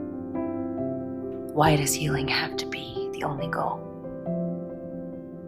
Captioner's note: voiceover